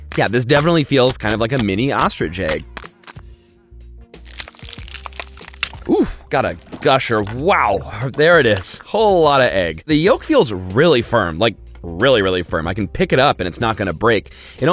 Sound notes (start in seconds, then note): 4.2 egg crackling